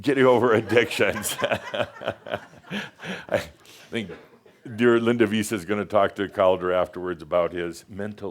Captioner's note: laughter